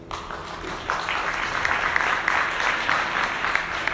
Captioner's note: audience clapping